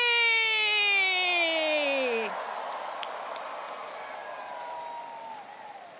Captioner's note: audience applauding and cheering